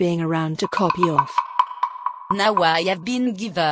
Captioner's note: rattle